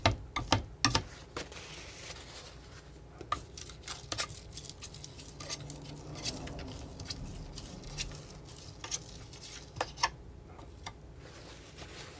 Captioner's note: plastic crinkling